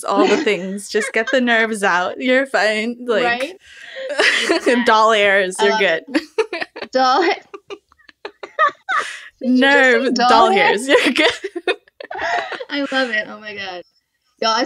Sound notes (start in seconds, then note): 0.8 laughter; 4.0 laughter; 10.4 laughter